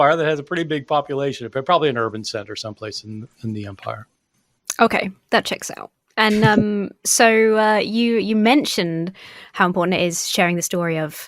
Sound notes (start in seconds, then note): 6.3 Bart chuckling